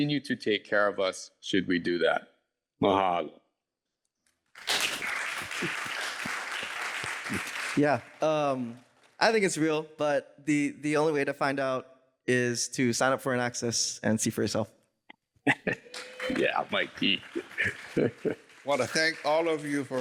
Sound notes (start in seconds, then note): 4.5 applause